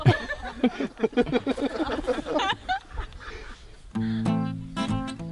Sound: laughter

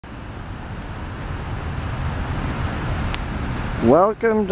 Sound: background noise of traffic and camera clicking

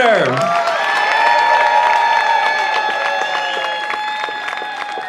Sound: audience cheering

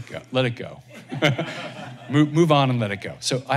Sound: laughter

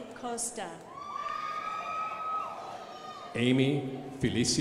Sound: crowd applauding

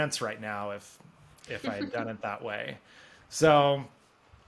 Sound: chuckles

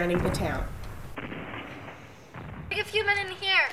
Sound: sounds of battle

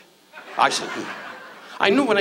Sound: audience laughs

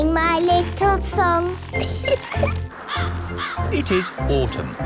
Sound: giggling; birds cawing

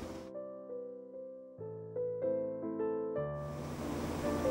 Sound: heated oven

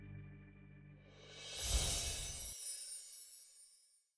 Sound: words whooshing

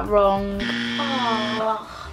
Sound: buzzer

